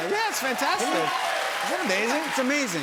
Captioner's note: cheering